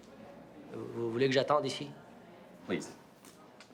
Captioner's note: Rene speaks in foreign language